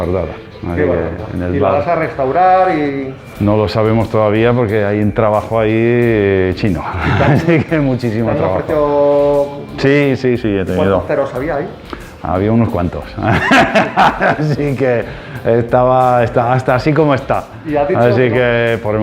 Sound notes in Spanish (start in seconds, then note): 6.9 risas; 15.9 risas